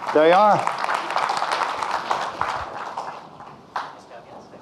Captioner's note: audience clapping